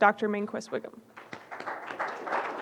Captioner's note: audience applauding